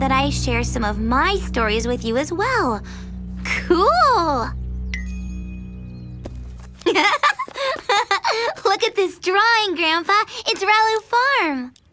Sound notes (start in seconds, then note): 6.8 giggles